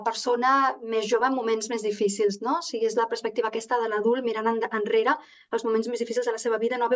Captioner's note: continues speaking in Catalan